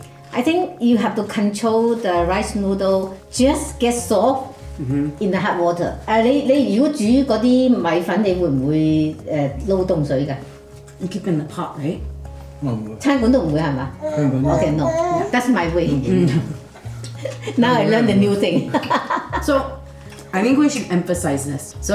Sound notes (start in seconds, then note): 18.5 laugh